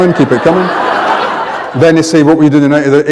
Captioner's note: laughter